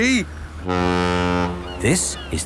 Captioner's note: laughing; ferry horn blows